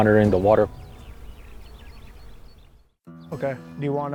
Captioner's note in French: Bruits d'oiseaux